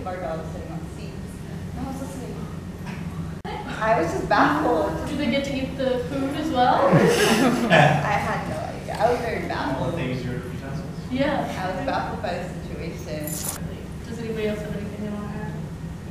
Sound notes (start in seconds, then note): 6.7 group laughs; 10.2 man in blue mumbles